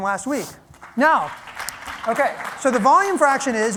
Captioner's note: applause